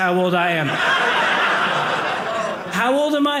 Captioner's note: audience laughing